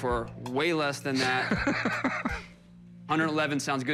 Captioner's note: Rick laughs